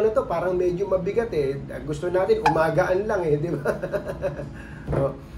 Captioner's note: laugh